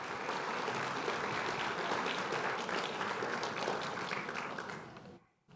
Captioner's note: applause